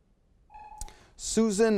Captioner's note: timer sounds